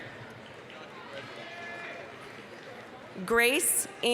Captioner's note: applause, cheering